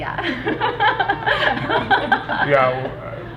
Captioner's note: girls laughing